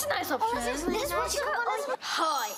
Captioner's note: chattering